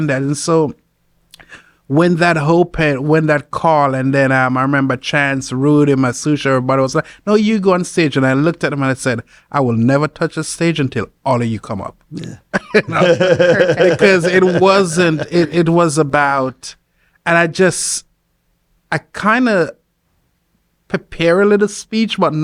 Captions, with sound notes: And so when that hope and when that call, and then I remember Chance Rude and my sous-chef, everybody was like, "No, you go on stage." And I looked at them and I said, "I will never touch a stage until all of you come up." (laughs) - Perfect. - 'Cause it was about, and I kind of prepare a little speech, but not.